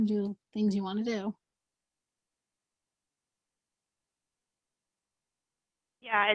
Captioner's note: silence